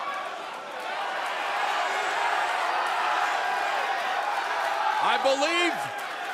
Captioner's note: crowd chatter